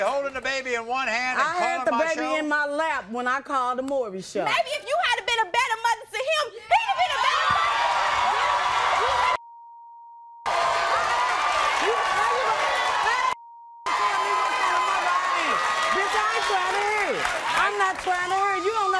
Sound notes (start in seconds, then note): 8.2 crowd cheering; 9.4 beep